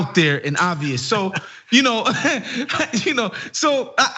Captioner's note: laugh